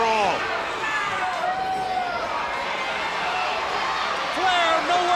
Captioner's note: crowd cheering